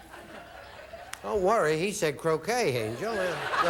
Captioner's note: audience laughing